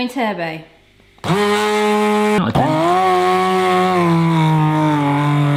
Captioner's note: loud buzzing noise